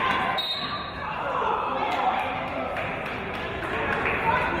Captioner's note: referee's whistle